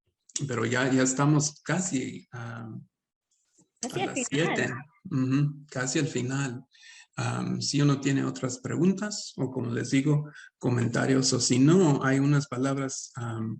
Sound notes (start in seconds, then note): 4.1 Sandra speaks Spanish; 5.3 speaking Spanish